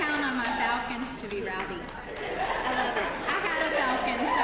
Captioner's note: laugh